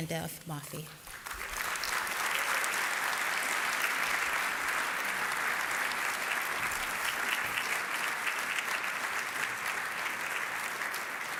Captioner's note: applause